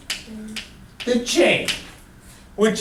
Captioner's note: voiceover